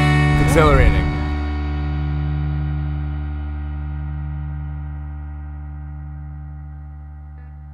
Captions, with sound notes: - [Voiceover] It's exhilarating.